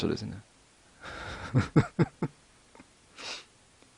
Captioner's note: laughs